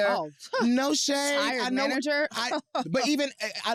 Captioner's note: laughs